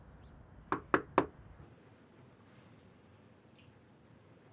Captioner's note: knuckles rapping